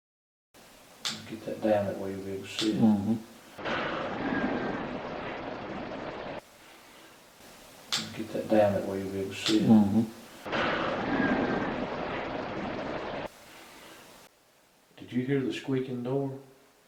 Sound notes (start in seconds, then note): 3.6 distant Whistle Tone; 3.9 banging Sound; 10.5 distant Whistle Tone; 10.7 banging Sound